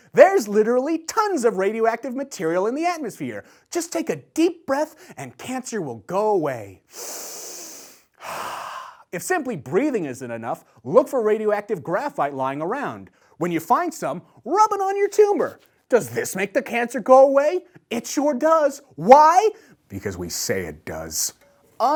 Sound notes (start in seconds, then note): 6.8 takes breath